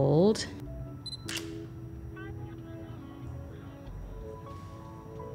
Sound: camera clicks

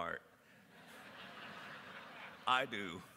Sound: laughter

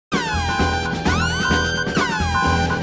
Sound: movie: Kill Bill, siren sound goes off

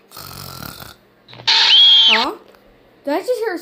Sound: snoring; scream

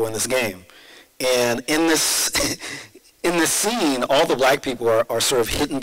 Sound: laughs

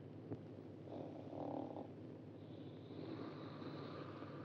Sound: Glenda snores

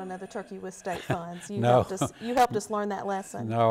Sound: laughs

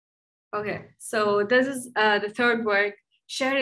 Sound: speaks in Dari

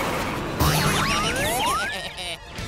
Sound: bumping

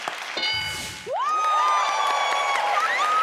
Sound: cheering

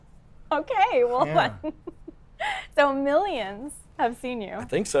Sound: laughs

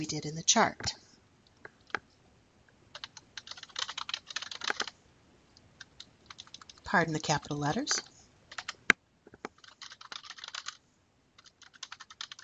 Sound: typing

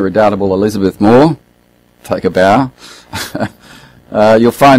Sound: laughs

